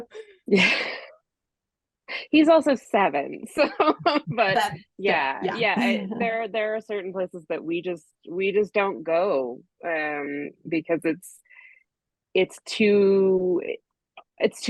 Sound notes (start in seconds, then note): 0.5 laughs; 3.7 laughs